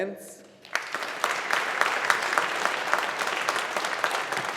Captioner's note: audience applauding